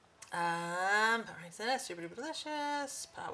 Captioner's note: speaks fast and in a low voice